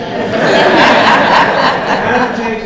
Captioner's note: audience laughs